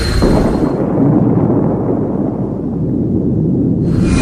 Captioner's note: helicopter engine whirring; loud explosion